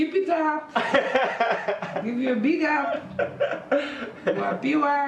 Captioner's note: laughing